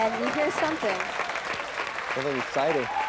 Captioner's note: crowd cheering